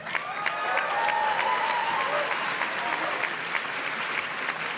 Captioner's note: audience cheers and claps